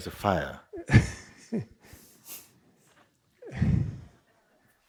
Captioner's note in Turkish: Soru soran kıkırdar